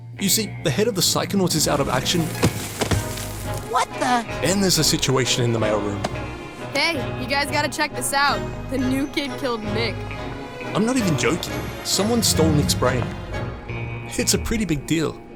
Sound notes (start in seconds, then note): 2.4 thud